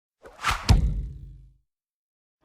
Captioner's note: shhh-thunk